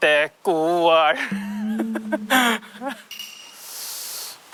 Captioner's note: the lingering echo